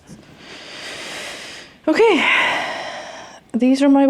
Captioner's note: inhales